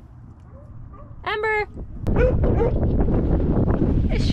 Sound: barking

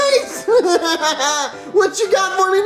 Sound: laughs

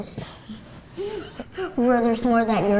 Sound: laughing

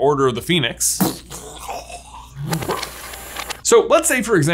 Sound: punching effect reversed

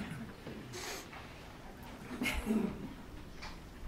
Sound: crowd chattering

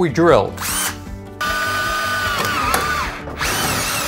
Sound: drilling

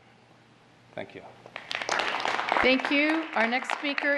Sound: applause

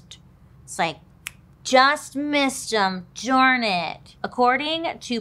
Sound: fingers snap

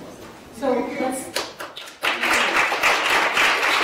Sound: applause

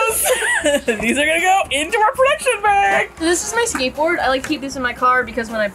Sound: cheerfully; both laugh; cheerfully

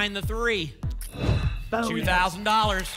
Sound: whoosh

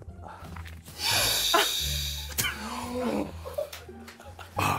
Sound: JJ inhales

